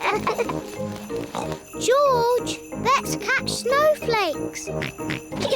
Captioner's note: snorts; both giggle; snorts